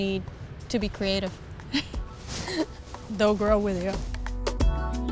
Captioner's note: laughs; upbeat music